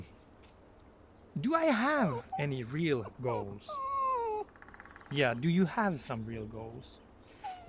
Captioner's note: dog whining